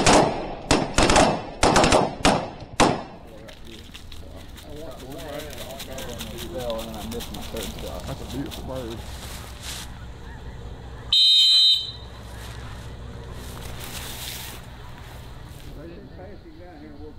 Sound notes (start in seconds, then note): 3.7 group talking; 11.0 whistle